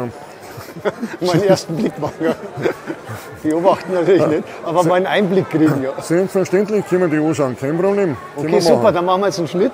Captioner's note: laugh; laugh!